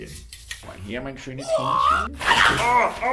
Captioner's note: attack sound